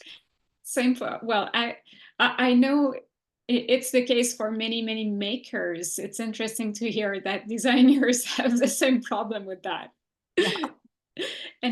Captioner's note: laughs